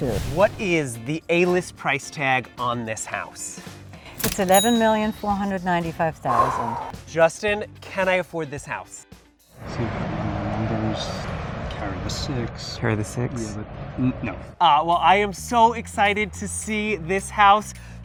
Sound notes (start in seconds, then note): 4.2 cash register dings; 6.2 exhales sharply